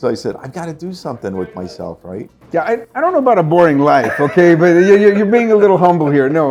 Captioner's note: risas